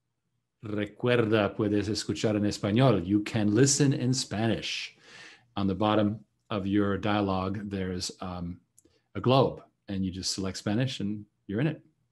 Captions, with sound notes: (speaking in foreign language) you can listen in Spanish, on the bottom of your dialogue there's a globe and you just select Spanish and you're in it.